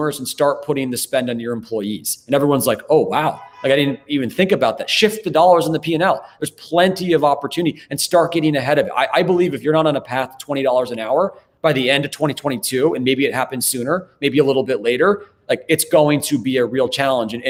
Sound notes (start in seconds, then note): 3.2 car honks